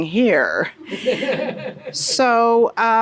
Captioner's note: audience laughs